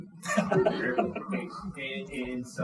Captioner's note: audience laughing